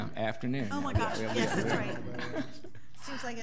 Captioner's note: all laughing